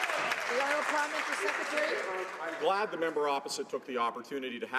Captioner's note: some Applause